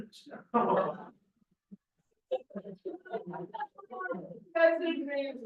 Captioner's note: laughter